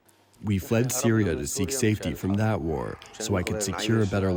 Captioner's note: through translator